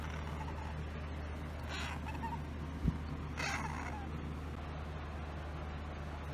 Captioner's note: Caprice meows lightly